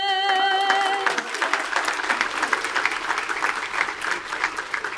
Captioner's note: attendees applaud